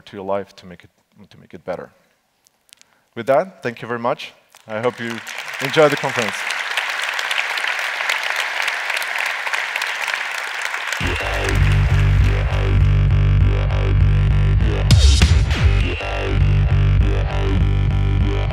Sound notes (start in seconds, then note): 6.3 applause